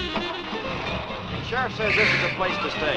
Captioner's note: engine cranks